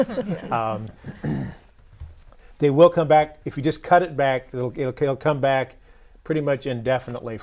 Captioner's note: laughing